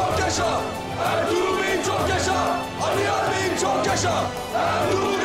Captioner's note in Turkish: Hep bir ağızdan